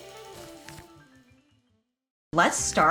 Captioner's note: page flipping